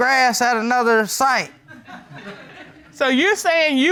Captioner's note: audience tittering